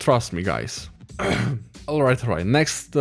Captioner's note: clears throat